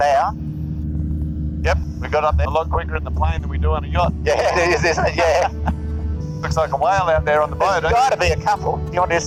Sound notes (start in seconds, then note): 4.2 laughs